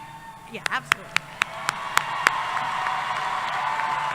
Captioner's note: cheering